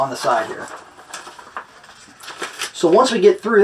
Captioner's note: shuffling pages